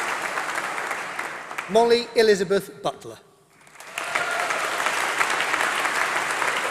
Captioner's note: applause